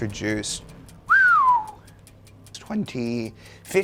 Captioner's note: whistles